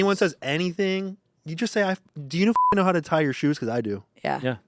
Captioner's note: beep